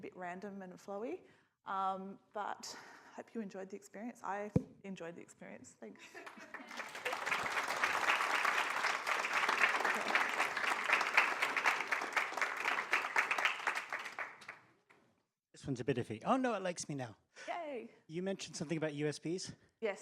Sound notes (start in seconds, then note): 6.2 audience applauds